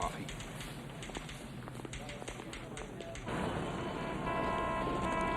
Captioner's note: typewriter typing; people chattering; horns honking; vehicles humming